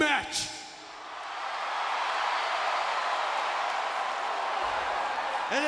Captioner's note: audience cheering